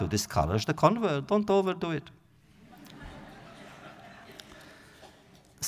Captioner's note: audience laughter